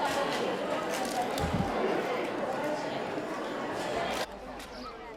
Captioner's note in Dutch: onduidelijk gebabbel